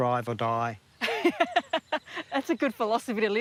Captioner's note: laughs